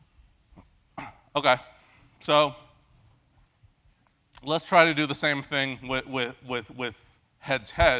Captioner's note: cough